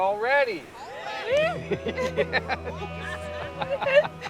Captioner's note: all cheering